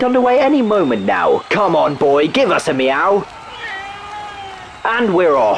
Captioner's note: Ralph meows